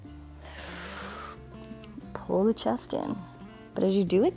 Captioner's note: exhales